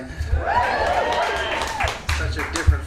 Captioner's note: audience cheering